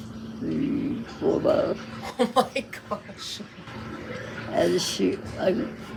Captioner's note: laughs